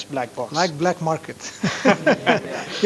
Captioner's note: laughter